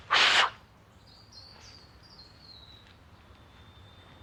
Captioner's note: blows sharply